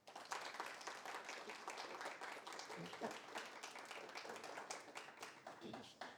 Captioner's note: audience applauding